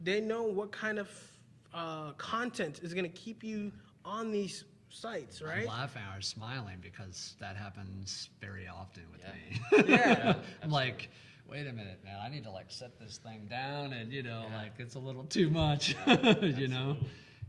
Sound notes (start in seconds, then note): 9.5 laughing; 15.8 laughing